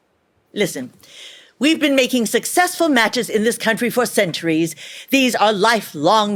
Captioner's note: none